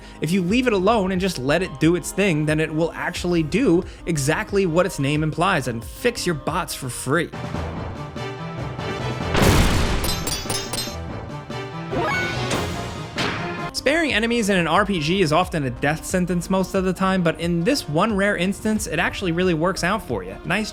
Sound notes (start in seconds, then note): 7.7 thrilling music; 9.8 swords clashing